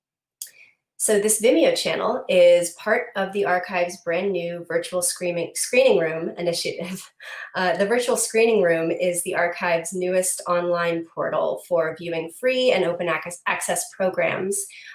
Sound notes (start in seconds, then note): none